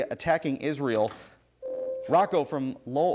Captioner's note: ding